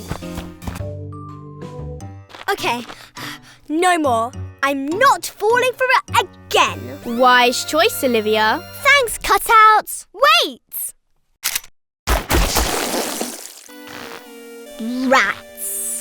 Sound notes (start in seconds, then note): 0.0 relaxed music; 11.4 gun cocking; 12.0 splat